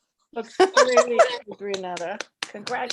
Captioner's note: laughs